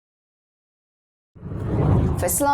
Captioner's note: video effect whooshes